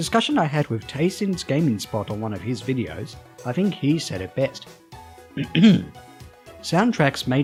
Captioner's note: clears throat